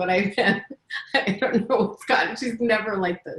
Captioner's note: laughing